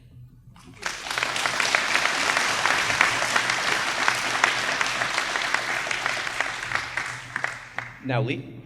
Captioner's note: applause